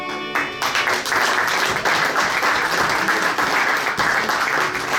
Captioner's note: audience applauds